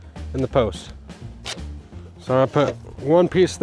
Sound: tape tearing

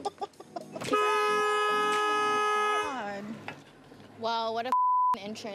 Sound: horn honking; beep sound

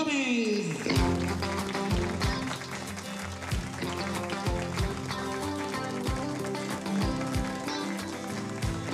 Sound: applause

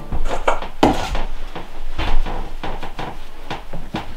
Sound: objects rustling

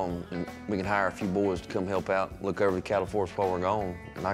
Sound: none

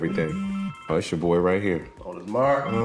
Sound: phone vibrating

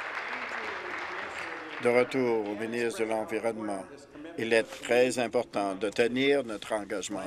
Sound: applause

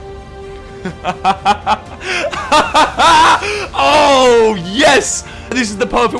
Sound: laughs

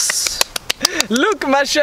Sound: clapping

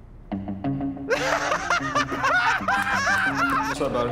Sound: laughing

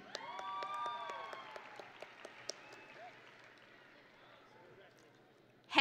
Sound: audience and graduates cheering

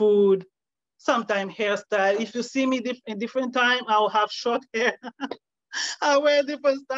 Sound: laughs; laughing

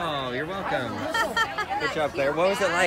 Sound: laughter

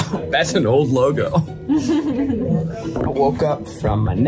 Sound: laughs

